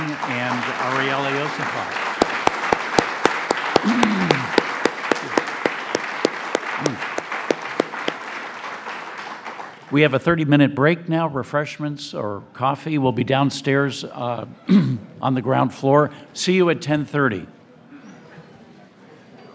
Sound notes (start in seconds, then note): 1.6 applause